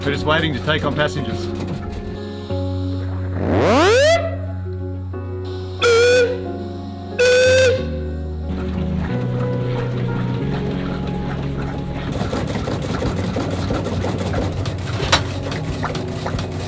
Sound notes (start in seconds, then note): 3.2 steam siren wailing; 13.1 steam engine whirring